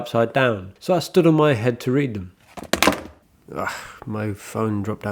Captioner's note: dropping sound